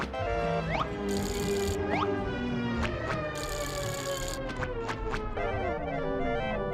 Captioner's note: music slows; bike chain rattling; horns blowing